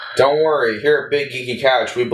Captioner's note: sigh